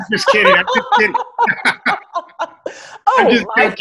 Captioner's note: laughter